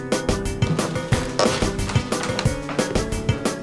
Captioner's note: creaking wood